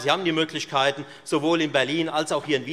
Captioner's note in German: none